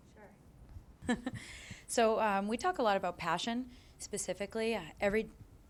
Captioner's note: chuckles